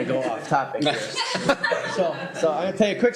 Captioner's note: laughter